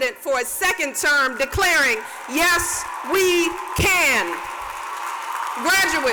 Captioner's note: cheers and applause